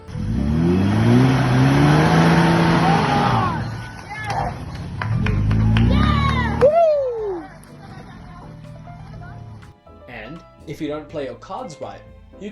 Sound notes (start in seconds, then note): 0.0 vroom; 5.0 cheering